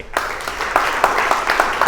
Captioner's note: applause